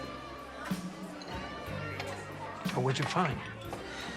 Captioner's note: bar patrons chattering